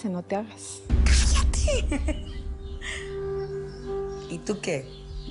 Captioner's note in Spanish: Risas